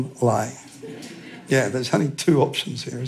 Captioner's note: laughter